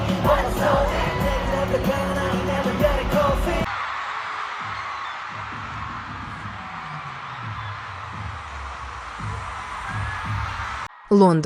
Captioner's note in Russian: ликование